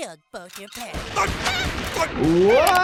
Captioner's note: gun shooting